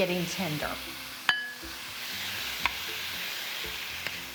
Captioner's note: leeks sizzling